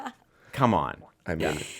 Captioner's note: laughing